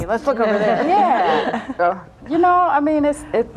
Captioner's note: all laughing